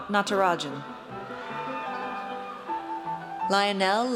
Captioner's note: audience cheers